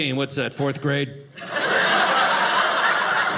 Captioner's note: audience laughing